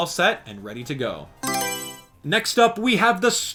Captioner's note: Mario Selection Sound